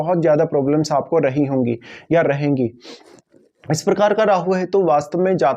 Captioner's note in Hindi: नाक से की जाने वाली आवाज़